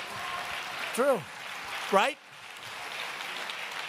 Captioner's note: applause